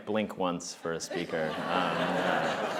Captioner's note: laughter